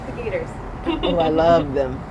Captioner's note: laughs